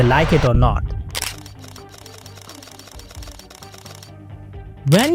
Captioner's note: camera Shutter Sound